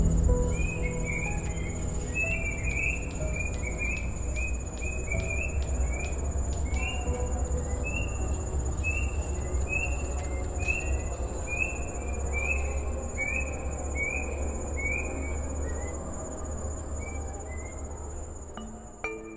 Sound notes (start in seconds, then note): 1.9 birds and insects chirping, distant call to prayer